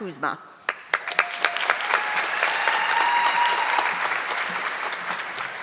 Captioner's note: audience clapping